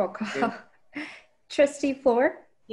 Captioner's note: laughs